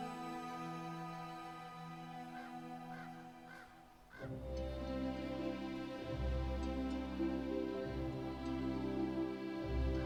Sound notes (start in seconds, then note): 2.3 crow cawing; 5.2 soft music